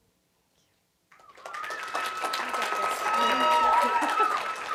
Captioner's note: applause